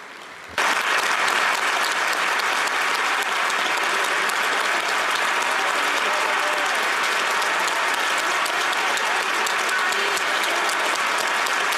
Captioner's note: applause